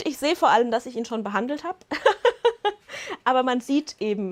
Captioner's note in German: gelächter